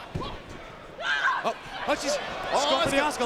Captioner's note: wrestlers shout